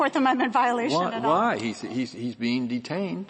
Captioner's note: laughter